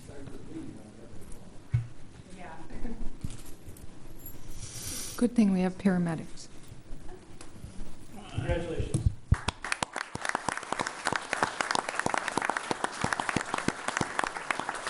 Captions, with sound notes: Good thing we have paramedics. Congratulations. (all applauding)